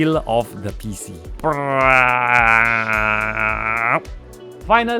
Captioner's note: peeling sounds